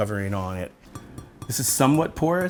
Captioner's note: tapping